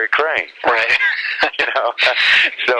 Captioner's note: laughs